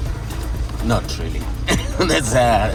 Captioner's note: laughs